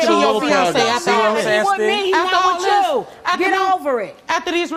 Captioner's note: overlapping chatter